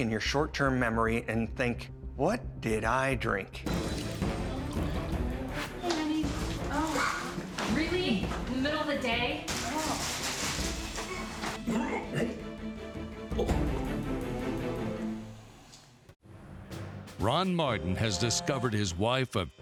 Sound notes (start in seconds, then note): 11.6 grunts